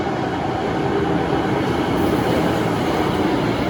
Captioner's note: train approaching